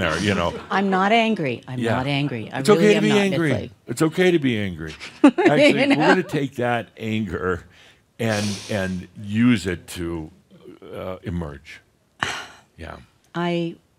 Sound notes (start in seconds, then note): 0.0 some laughter; 5.0 she laughs; 11.6 she sighs